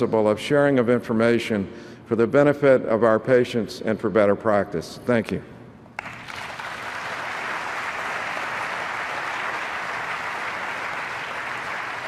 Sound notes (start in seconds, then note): 6.0 audience applauds